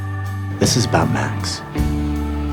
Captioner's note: voiceover